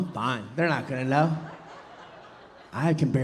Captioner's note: audience laughing